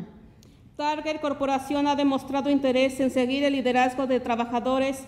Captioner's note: speaks Spanish